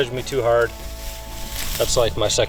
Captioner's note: grass rustling